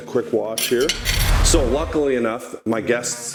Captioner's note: whooshing